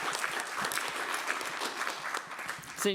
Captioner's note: applause